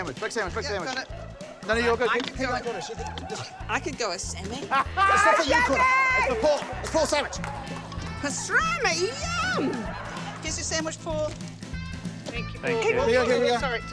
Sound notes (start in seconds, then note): 4.8 laughs